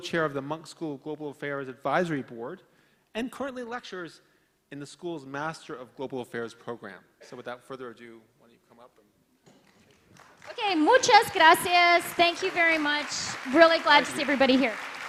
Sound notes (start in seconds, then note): 9.7 applauding